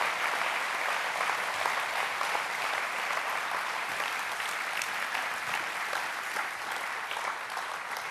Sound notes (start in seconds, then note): 5.2 applaus